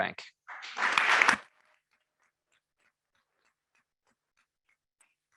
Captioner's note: members clapping